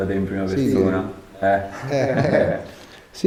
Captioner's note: laughter